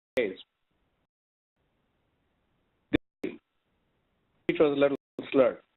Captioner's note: audio cuts out